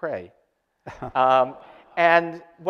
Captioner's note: audience laughter